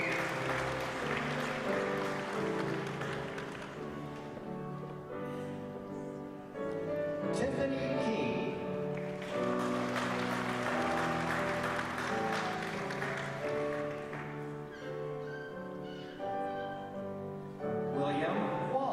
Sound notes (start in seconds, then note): 8.8 applause